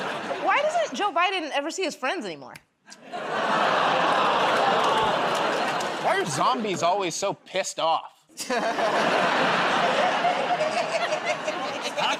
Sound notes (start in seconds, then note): 2.7 laughter, groaning; 8.3 laughter